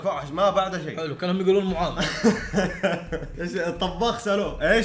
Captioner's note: laughs